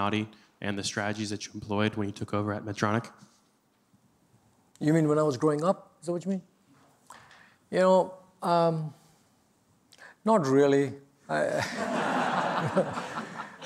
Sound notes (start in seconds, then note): 11.4 laughter